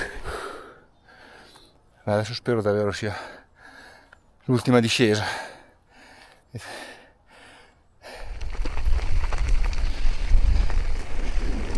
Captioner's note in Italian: sospiri